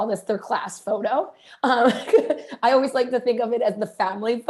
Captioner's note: laughter